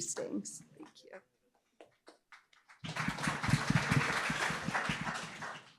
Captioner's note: applause